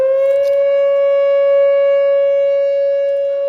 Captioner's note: keys jiggling in background